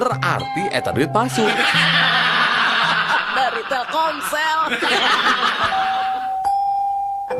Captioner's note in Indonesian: tertawa